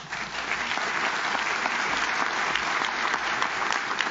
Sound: audience claps

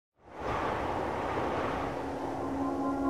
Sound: cold wind blowing

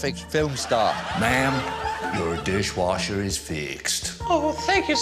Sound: american accent

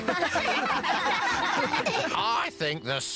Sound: laughter Continues

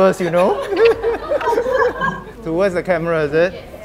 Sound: laughter

